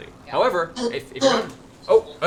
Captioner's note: coughs